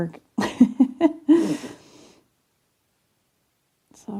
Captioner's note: chuckling